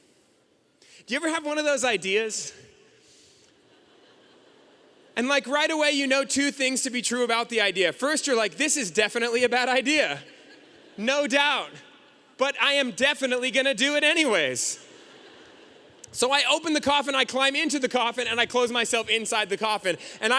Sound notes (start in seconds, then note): 3.6 audience chuckling; 14.8 audience laughing